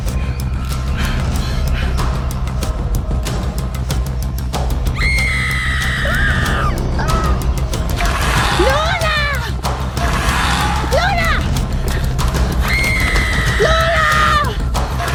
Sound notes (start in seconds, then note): 0.2 dramatic music continues; 5.1 Luna screaming; 10.1 dinosaur squawking; 12.7 Luna screaming